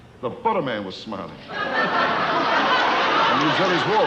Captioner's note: audience laughing